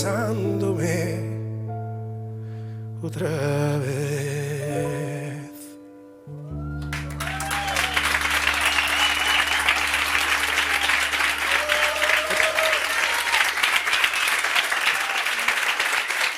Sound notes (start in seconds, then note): 7.1 applause